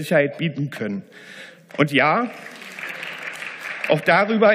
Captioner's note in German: Beifall